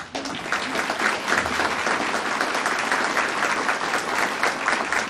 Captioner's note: audience applauding